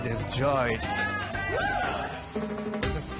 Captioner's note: cheering